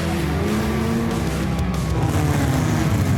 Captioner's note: crowd cheers